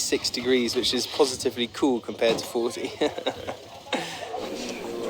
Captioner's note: laugh